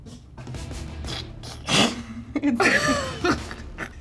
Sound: laughs

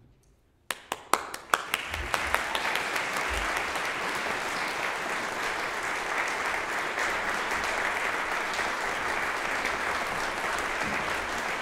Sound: applause

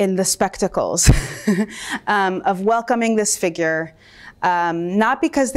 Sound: chuckles

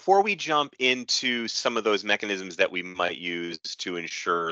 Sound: audio skips forward

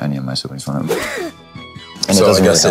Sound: gasping

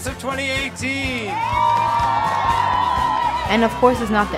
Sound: students cheering; applause

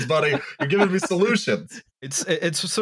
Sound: laughing

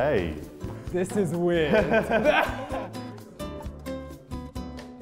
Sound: laughter

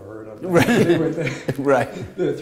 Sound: laughter

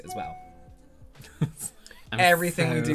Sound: Roberts email notification went off AGAIN

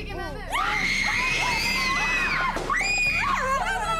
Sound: screaming her lungs out

